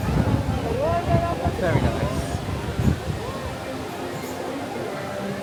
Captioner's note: wind whooshing